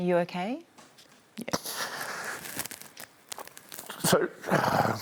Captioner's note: breathes shakily